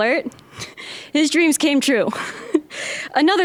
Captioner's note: chuckling